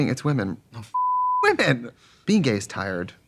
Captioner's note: beep